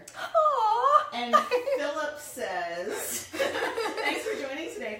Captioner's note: laughing